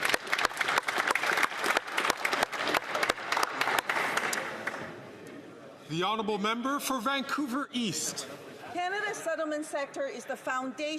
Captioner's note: some Applause